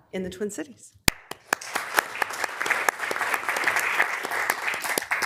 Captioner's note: members applauding